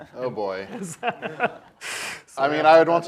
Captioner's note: laughs